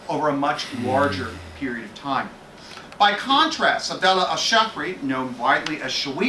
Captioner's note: Arabic